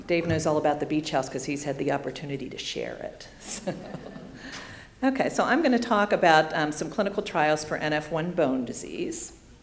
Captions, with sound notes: Dave knows all about the beach house 'cause he's had the opportunity to share it. (laughing) Okay, so I'm going to talk about some clinical trials for NF1 bone disease.